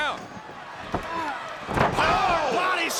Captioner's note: crowd cheering